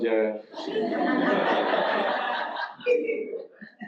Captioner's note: audience laughs